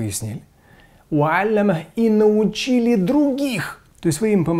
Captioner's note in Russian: Говорит на арабском